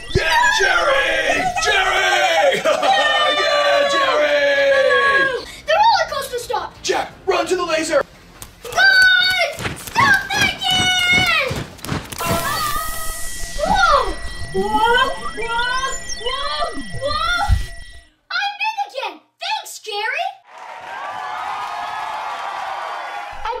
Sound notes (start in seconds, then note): 11.1 soldiers Marching; 20.4 crowd cheering